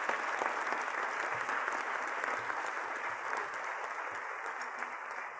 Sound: applause

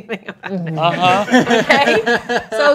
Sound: laughing

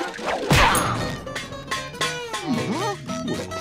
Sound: clanking

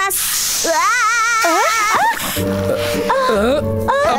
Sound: both yell

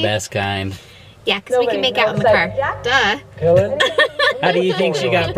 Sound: laughs

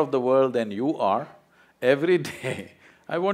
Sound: laughs

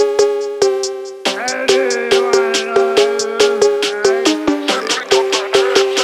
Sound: Scottish drunken gibberish

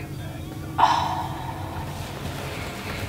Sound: whispering

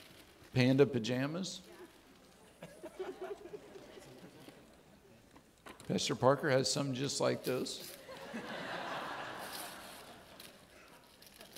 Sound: audience laughing

